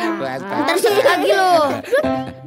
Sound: laughing

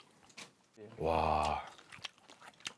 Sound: exclaiming

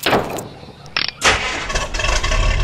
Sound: click; door opens and shuts; click; engine starts

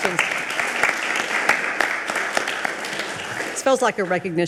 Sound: audience applaud

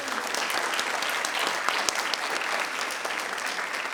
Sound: people clapping

